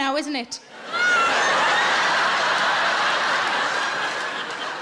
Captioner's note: audience laughing